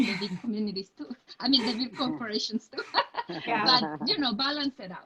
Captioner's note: laughs